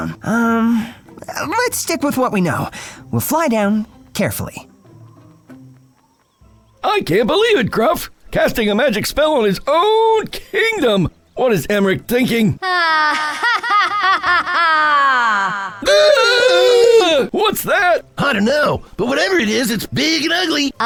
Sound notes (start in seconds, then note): 12.6 Cassandra laughs; 15.4 Scruff and Gruff exclaim